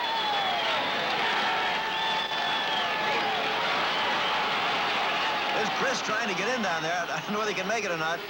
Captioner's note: crowd cheering